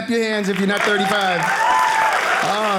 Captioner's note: audience clapping